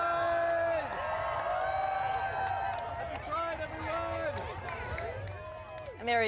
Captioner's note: cheers and Applause